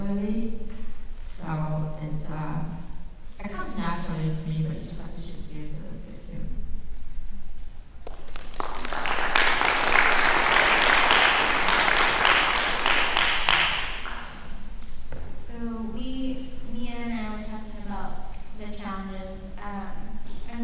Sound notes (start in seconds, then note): 8.0 applause